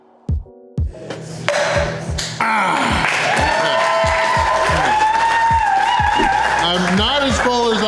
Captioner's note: crowd clapping and cheering